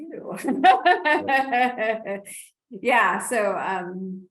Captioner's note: laughs